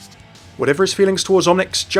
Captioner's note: voiceover